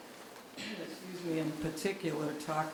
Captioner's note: clears throat